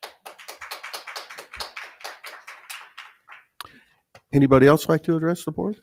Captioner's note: audience clapping